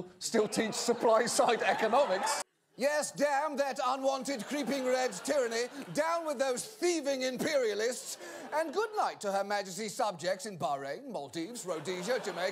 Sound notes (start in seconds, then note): 0.4 audience laughter; 2.9 colonizer accent